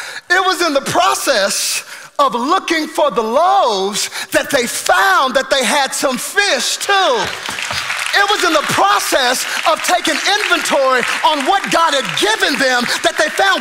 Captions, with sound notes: It was in the process of looking for the loaves that they found that they had some fish, too. (congregation applauding) It was in the process of taking inventory on what God had given them that they found